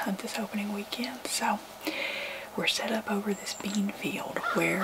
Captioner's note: whispering